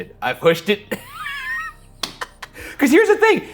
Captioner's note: laughs